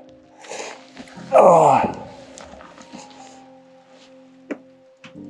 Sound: rock clanking

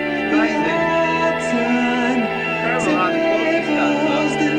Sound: alarm bells ring

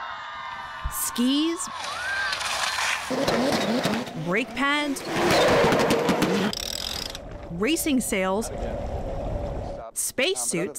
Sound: voice-over

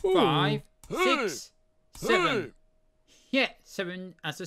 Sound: pc selby memory sound

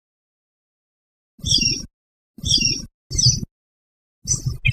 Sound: bird calling

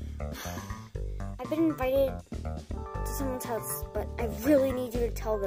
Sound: sigh

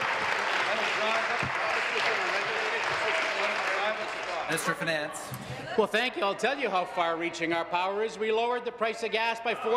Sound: applause

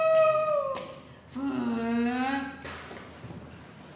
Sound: scream; child's voice mimicking an engine

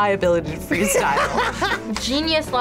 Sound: laughs

